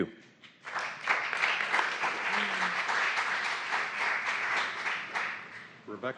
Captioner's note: applause